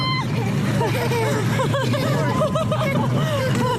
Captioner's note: both laughing